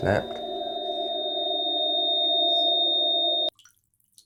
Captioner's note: solid beep